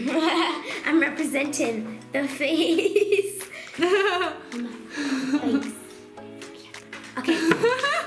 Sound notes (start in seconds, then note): 0.0 laughs; 3.7 laughs